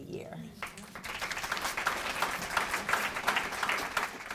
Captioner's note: audience claps